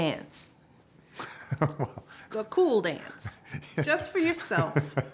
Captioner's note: laughing